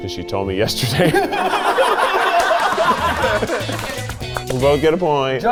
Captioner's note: all laughing